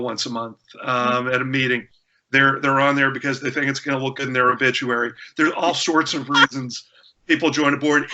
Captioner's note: laughter